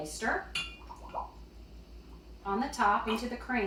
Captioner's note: milk bubbling